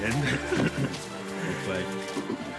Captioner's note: both laughing